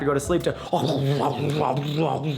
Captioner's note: growling frantically